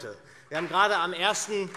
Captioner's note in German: Beifall SPD